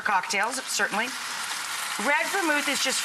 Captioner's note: pan sizzling